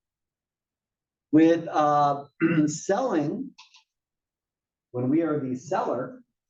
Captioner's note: cough